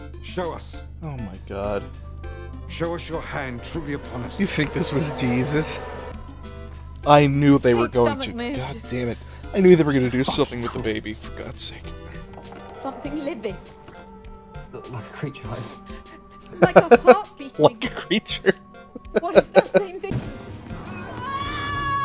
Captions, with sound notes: "Show us!" Oh, my God. "Show us your hand, truly upon us." You think this was Jeeesus? I knew they were going to- God dammit, I knew they were gonna do something with the baby. For God's sake. "Something living!" "What, like a creature, like-" *laughter* "Like a creature"? *chuckle*